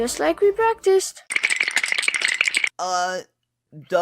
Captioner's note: cartoon sweating noise